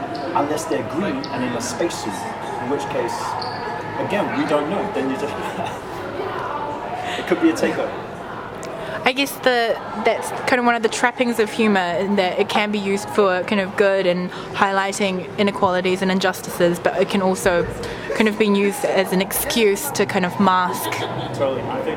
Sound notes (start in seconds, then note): 5.1 laughs